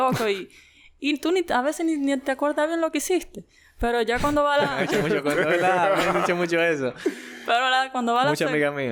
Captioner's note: laughs